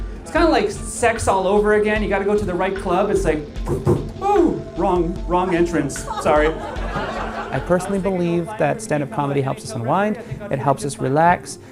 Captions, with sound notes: It's kind of like sex all over again. You gotta go to the right club. It's like, [mimics knocking] oh, wrong entrance. Sorry. [chuckling] I personally believe that standup comedy helps us unwind. It helps us relax.